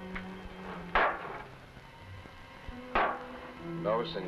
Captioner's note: bottles thudding